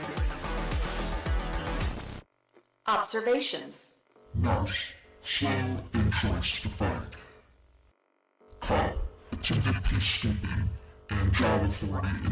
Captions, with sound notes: (Computer voice) Observations (distorted voice) Nurse slow in choice to fight cop attempted peacekeeping and job authority